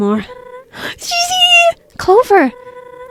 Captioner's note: gasps